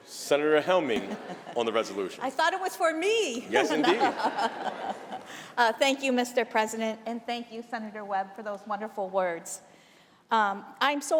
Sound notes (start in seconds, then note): 3.5 laughter